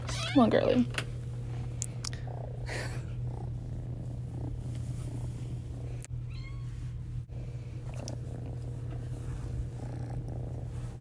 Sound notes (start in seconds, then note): 2.0 purring; 7.8 more purring